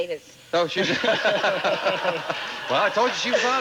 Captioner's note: audience laughing